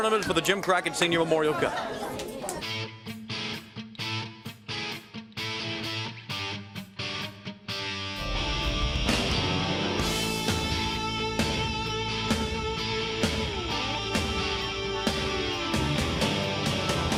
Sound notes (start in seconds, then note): 5.3 crowd cheering